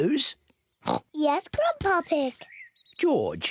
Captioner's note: oinks